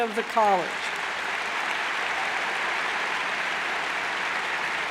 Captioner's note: cheers and applauds